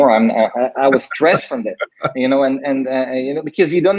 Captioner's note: laughs